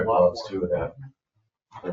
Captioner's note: members chattering